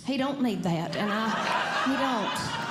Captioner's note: audience Laughing